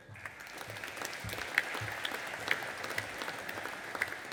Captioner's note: audience applauding